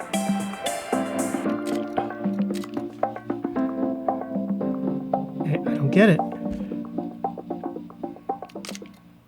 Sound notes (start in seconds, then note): 2.3 camera clicking